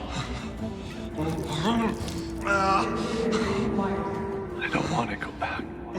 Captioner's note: groaning